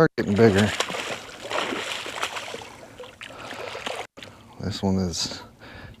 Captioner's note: water splashing